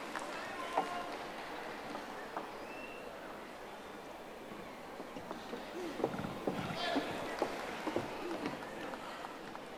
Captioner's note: audience applauding